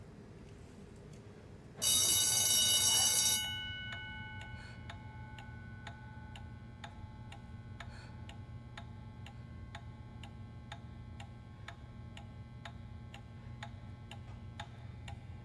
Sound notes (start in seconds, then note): 1.8 bell ringing; 4.1 clock ticking